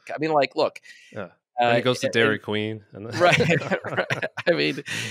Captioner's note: chuckles